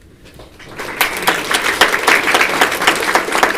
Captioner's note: applause